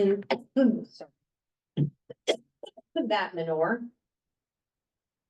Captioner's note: coughs